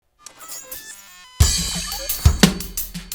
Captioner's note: electronic beeping; drumming